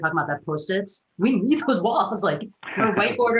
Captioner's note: giggles